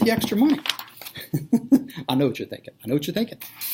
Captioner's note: laughter